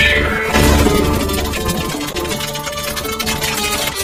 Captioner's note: wheel dinging